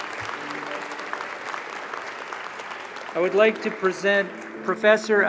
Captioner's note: applause